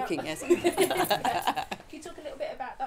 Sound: audience laughing

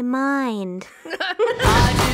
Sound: laughing

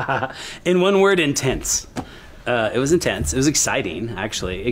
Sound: laughs

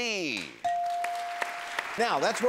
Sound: machine dings

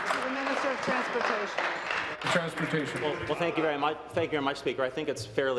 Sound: applause

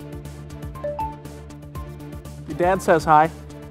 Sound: phone beeping

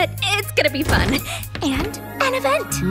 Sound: door opens

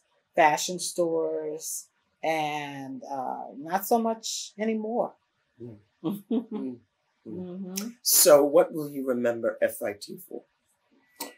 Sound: laughs

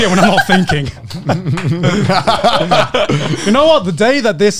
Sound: laugh

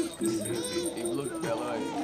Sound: bell rattles; cooing

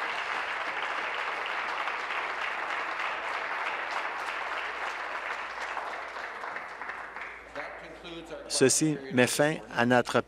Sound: applause

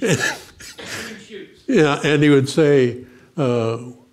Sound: laughs

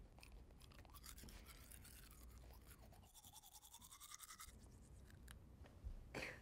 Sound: brushing softly; brushing

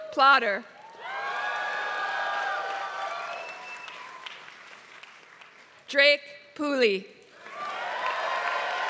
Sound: applause; applause

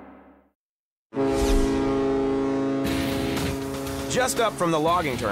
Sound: ship honking

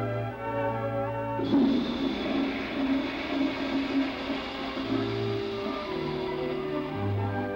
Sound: toilet flushing

